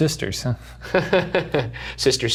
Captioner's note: laughing